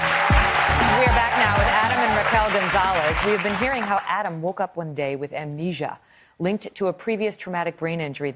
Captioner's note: applause